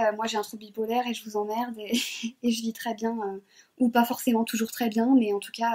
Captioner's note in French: rires